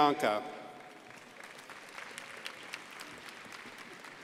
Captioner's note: crowd applauding